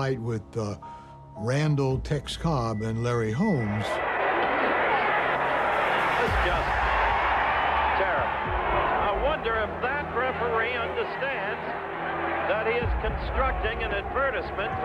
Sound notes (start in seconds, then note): 3.7 crowd cheering